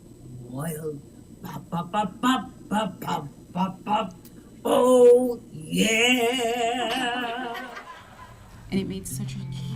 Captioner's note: imitating brass